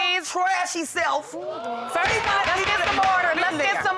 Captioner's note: audience exclaiming